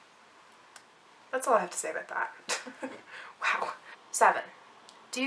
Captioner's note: laughs